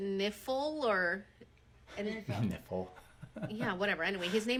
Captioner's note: chuckles